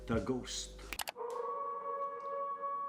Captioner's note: wolf howling